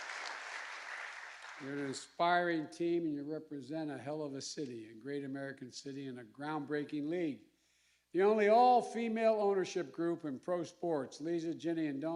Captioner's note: applause